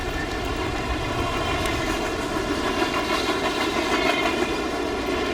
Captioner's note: train rattling